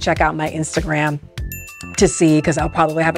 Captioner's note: bell dings